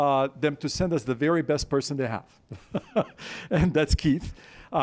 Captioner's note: laughing